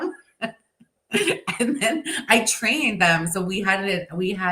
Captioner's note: chuckles